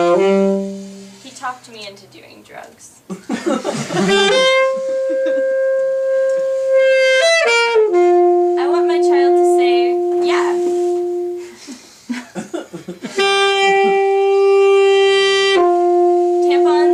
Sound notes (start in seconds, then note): 0.0 saxophone playing; 3.9 saxophone playing; 4.8 laughing; 12.0 laughs; 13.1 saxophone playing